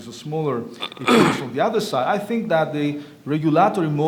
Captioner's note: cough drowns out speaker